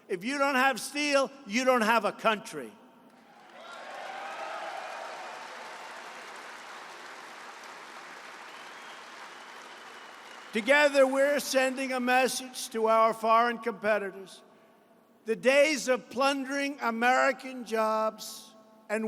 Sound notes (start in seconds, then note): 3.2 applause